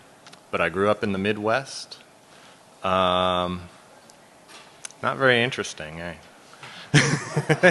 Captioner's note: laughter